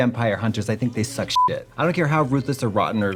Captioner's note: beeping